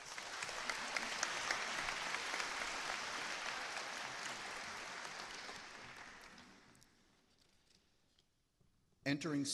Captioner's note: applause